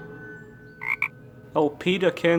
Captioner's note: cursed croak.sfx